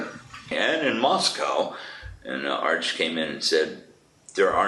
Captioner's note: laughs